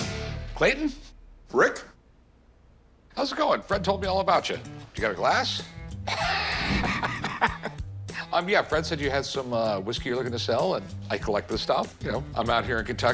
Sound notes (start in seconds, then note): 6.0 Rick laughing